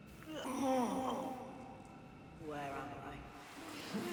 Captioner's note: voiceover